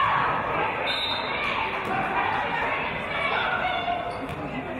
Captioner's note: referee's whistle